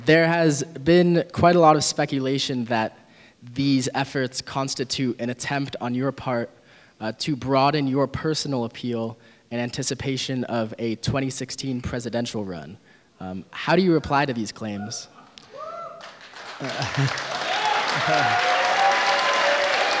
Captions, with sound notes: There has been quite a lot of speculation that these efforts constitute an attempt on your part to broaden your personal appeal in anticipation of a 2016 presidential run. How do you reply to these claims? (audience applauding)